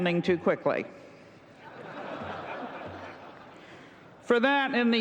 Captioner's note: laughter